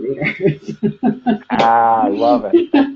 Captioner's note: laughs